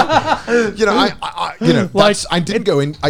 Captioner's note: laughing